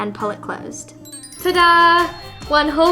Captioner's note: bells tinkling